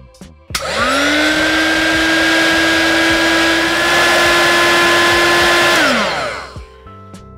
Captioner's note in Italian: hot air gun sound